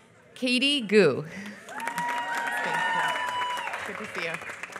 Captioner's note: applause